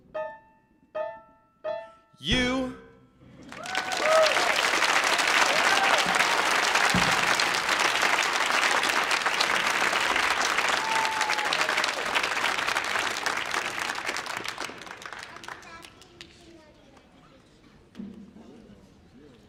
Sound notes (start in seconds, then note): 4.0 audience applauding